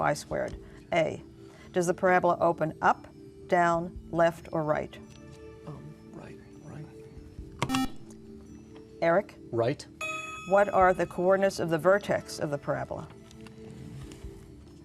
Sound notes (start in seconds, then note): 5.6 whispering; 7.6 beeping